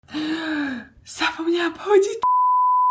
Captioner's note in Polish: wzdycha